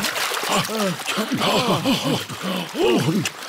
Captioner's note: all puff and pant